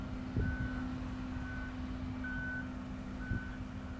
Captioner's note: truck signal beeping